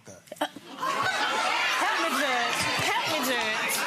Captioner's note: gallery shouts